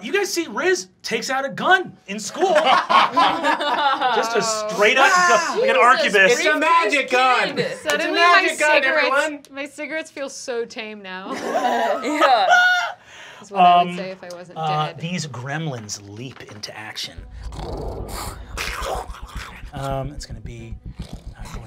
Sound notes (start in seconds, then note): 10.6 laughing; 17.4 snarling